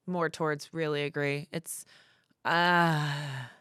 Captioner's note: sighs